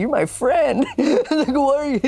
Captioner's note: chuckles